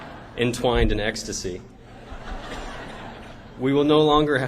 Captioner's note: laughter